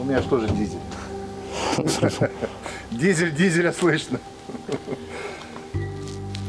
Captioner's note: loughing